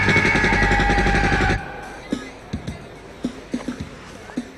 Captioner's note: gunshots fire